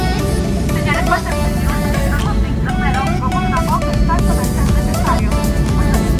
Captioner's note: attendant speaking Spanish